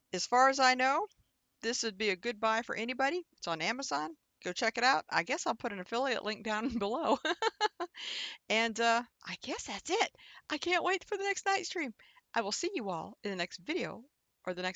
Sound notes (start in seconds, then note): 7.2 laughs